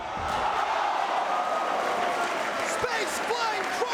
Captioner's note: crowd cheering